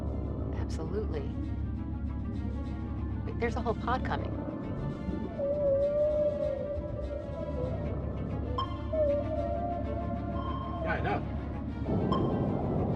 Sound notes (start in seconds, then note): 4.7 whales lowing